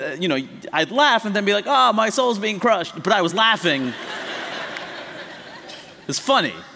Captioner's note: laughter